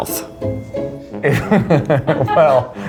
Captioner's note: both laughing